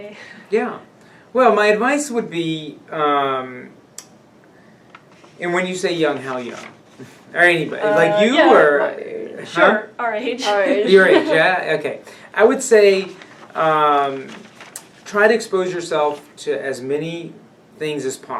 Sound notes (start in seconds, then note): 10.5 laugh